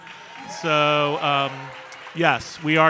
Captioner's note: audience cheering and applauding